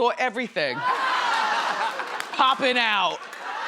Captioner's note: crowd laughs